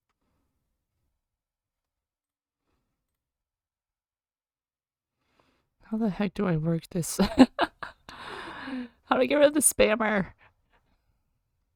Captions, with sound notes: How the heck do I work this. [laughs] How do I get rid of the spammer.